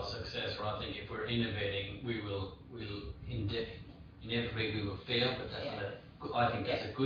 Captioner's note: audio distorts